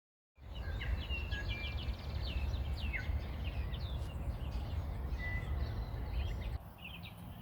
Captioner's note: birds singing